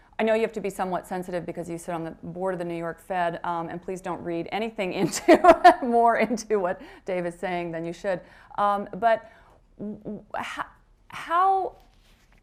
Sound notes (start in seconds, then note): 6.7 laughs